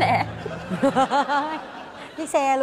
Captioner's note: laughs